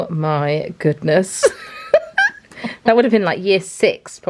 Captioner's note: laughs